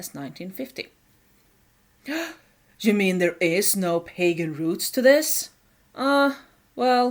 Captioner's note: gasp